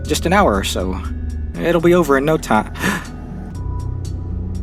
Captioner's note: ghasp